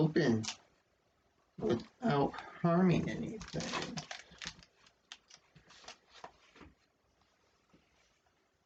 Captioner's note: rustling of packaging tape